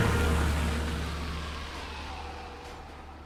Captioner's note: distant siren and car horn